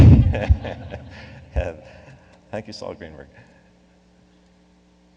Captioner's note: laughs